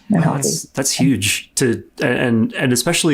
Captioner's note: stutters